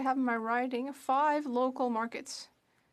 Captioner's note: speaking French